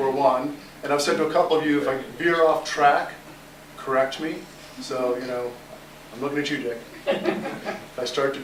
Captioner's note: laughter